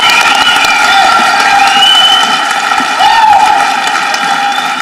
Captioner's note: audience cheering